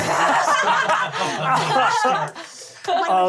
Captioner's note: laughter